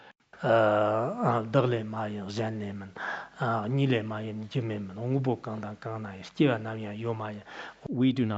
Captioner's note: citing scripture in Tibetan